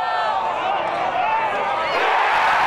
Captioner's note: crowd cheering